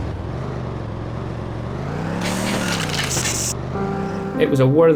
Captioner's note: car engine revving